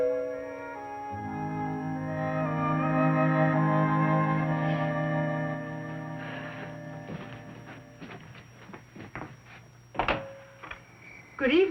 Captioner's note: doorbell